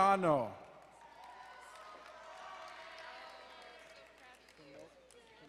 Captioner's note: crowd cheering and applauding